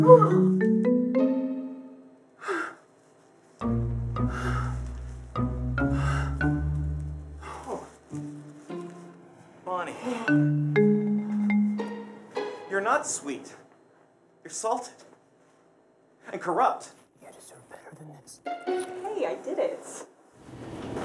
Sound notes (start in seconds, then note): 0.1 growls in frustration; 2.5 sighs in disbelief; 4.0 sighs in accusation; 7.4 sighs in grief; 17.2 whispers